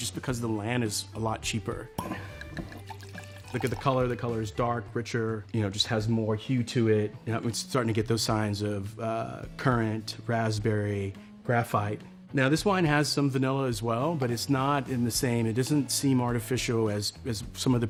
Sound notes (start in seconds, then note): 1.9 cork pops; 1.9 wine pours